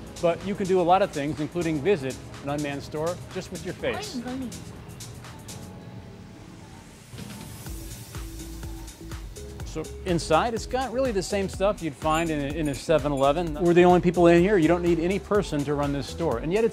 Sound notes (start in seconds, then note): 4.7 speaking in foreign language; 8.4 upbeat music